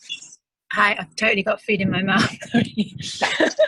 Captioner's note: laughs